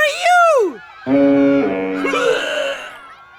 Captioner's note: sickly gags